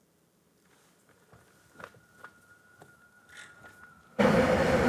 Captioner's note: sirens blaring